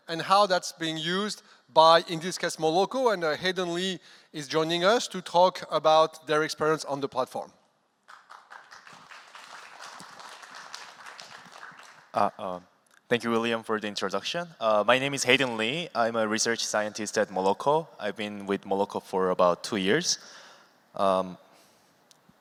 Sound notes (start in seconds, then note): 8.0 applause